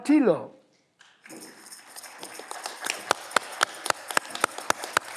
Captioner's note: audience clapping